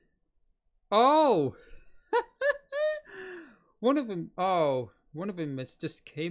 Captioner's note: chuckles